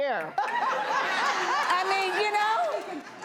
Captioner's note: laughs